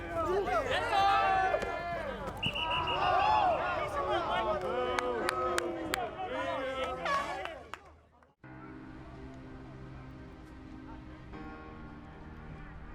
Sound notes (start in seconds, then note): 2.4 whistling beeps; 7.3 whistling horn; 10.1 dramatic music